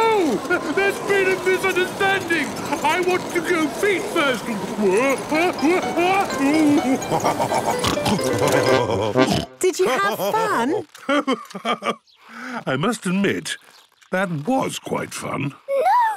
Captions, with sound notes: - No! There's been a misunderstanding! I want to go feet first! (shouting) (laughing, snorting) - Did you have fun? - Ho-ho! I must admit, that was quite fun!